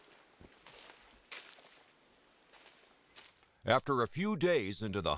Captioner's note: leaves crunching